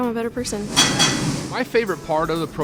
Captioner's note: metal clanking